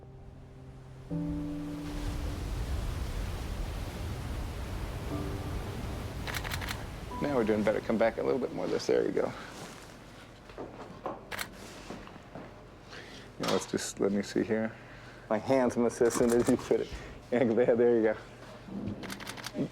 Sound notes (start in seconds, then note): 0.6 crashing waves; 6.2 camera clicking; 11.3 camera clicks